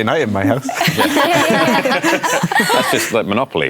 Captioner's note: laughter